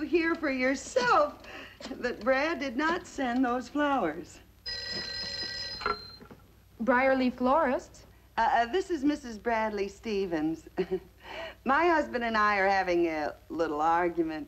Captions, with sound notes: yourself that Brad did not send those flowers. (phone ringing) - Brierley Florist. - This is Mrs. Bradley Stephens. My husband and I are having a little argument.